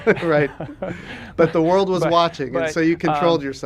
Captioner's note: laughter